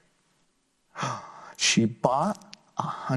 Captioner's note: gasps